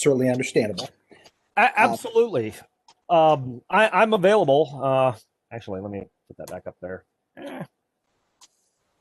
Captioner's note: strained noise